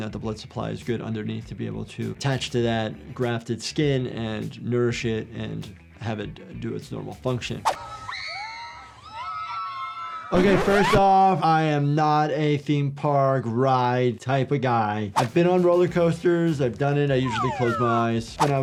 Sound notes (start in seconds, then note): 7.8 riders screaming; 10.4 disk scratches